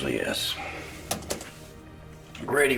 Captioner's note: keys clicking